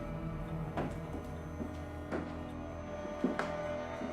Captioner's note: boots tapping